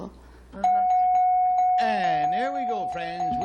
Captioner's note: dings